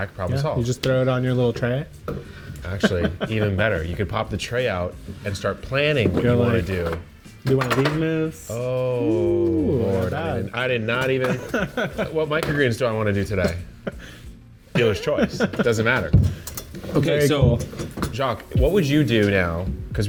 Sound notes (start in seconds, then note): 2.7 laughs; 11.2 laughs; 14.7 laughs